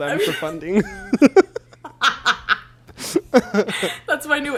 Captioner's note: both laugh